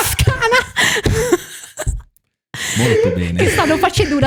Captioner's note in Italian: laughter